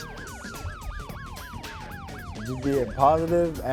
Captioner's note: police sirens wail